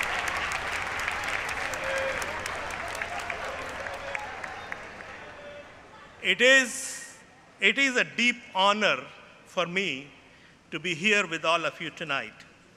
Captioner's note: applause